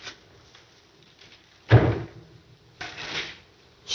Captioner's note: door slams